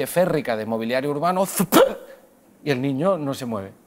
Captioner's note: whop